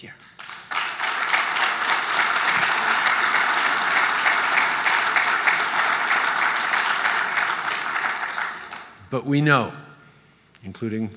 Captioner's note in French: Applaudissements